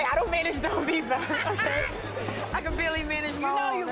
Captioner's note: everyone laughs